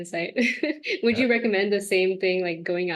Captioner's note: laughs